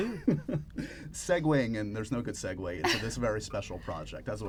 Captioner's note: laughs